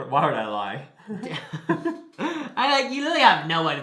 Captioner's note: both laugh